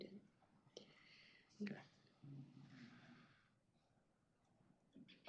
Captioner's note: indistinct chatter